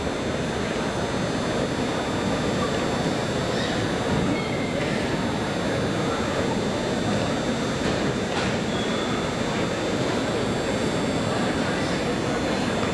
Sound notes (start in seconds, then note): none